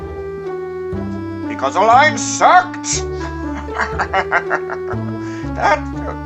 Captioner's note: laughing